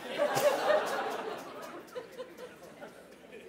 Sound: laughter

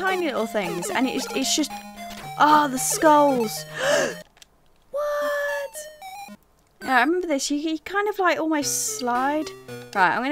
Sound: gasps

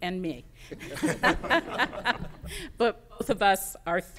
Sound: laughter

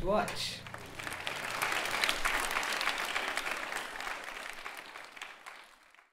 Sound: applause

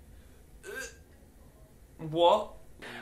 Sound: gags

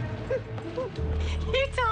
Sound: laughing

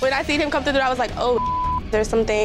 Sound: beep

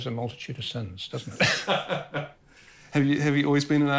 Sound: laughs

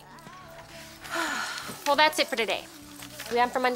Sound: sighs

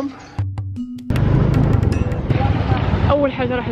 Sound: engine sound

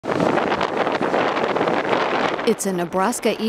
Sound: lightning cracks

